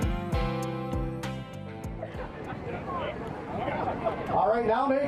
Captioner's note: music fades out; crowd noises fade in